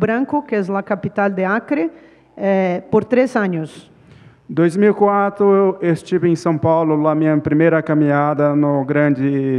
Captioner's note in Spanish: Ponente habla en portugués